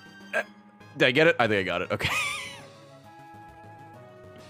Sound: laughs

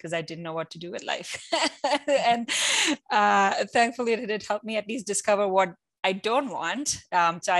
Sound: laugh

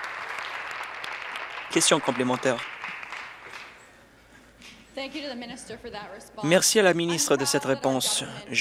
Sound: applause

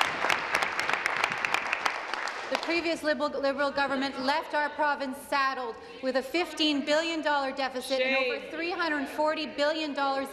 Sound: applause

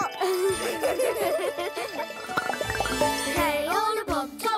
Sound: giggling

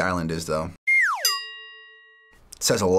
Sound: whimsical noise; ding

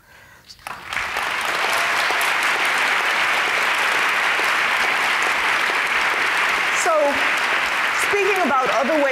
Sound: applause

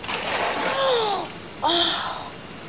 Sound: gasps

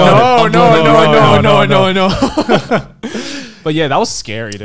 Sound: laughing

